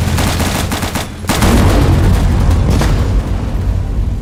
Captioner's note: plane engine flying over; big ass explosion lol